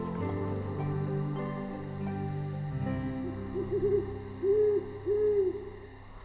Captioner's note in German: Eulenschrei; Heuschrecken zirpen